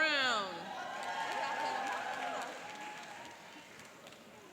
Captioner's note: cheering and applauding